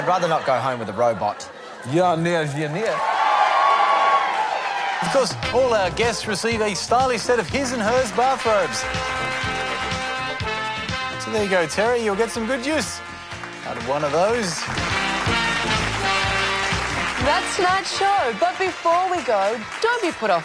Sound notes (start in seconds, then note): 2.2 cheering and applause; 2.4 speaks in Russian language; 15.5 cheering and applause